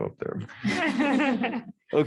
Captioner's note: laughter